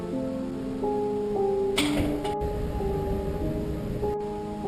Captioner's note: door slamming